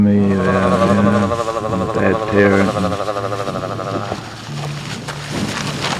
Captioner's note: chattering teeth